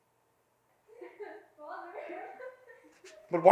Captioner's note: crying